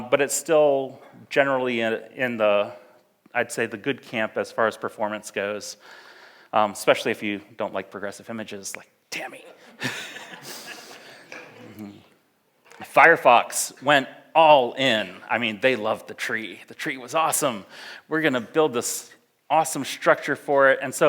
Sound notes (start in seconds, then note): 9.4 laughs; 9.7 audience laughs